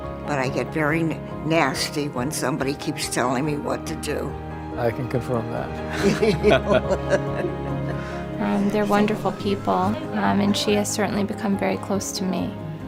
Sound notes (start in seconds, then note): 5.8 both laugh